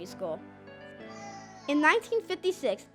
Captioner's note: baby cries